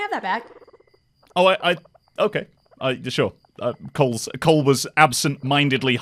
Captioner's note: stammering